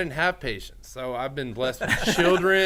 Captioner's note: men laughing